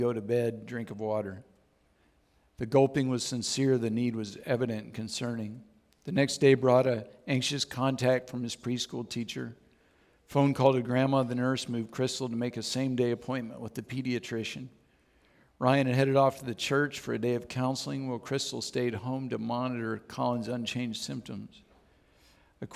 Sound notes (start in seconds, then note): none